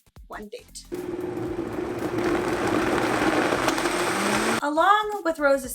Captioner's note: blender grinding